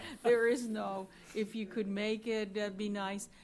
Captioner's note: laughter